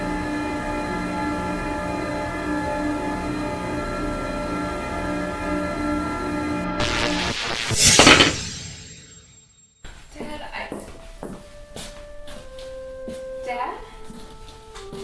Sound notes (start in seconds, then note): 0.1 dark music; 6.8 electric shock and impact; 9.8 steps